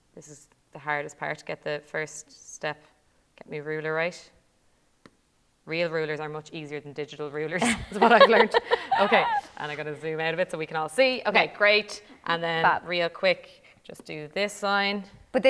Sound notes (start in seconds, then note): 7.6 laughter